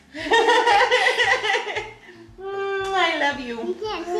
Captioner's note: laughing